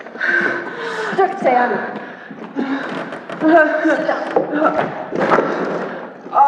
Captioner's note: gasping and moaning